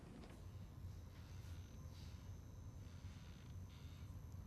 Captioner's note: bulb buzzes